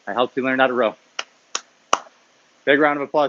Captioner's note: clapping